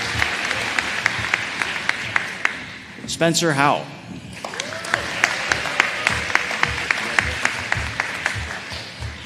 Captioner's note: applause